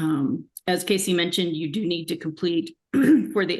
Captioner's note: clears throat